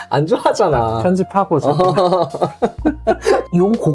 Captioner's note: laugh